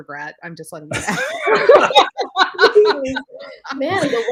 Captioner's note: laughs